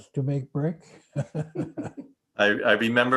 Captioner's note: laughing